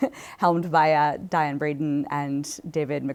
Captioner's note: chuckles